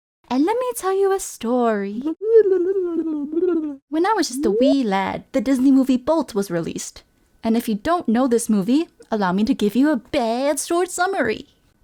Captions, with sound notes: and let me tell you a story~ *really good flashback noises* When I was just a wee lad the Disney movie, "Bolt" was released And if you don't know this movie allow me to give you a BAD short summary